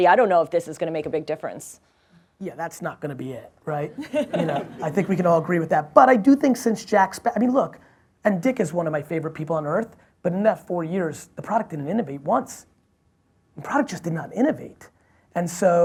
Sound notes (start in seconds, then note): 3.9 audience laughs